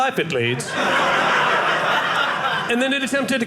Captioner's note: audience laughing